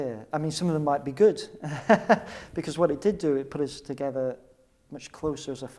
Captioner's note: laughs